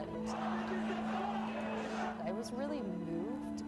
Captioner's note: people shouting